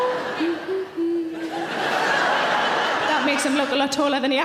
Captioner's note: audience laughing; humming; audience laughing